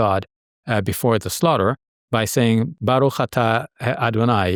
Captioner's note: speaking Arabic